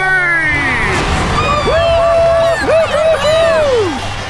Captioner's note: cheering